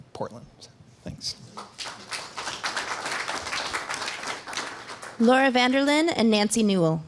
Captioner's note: applause